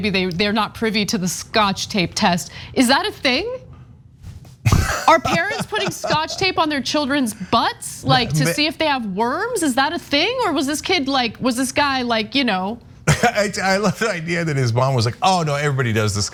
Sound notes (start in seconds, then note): 4.6 laugh